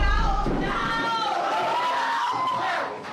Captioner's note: screaming